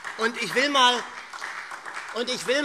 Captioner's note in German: Beifall SPD